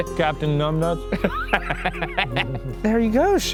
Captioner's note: laughing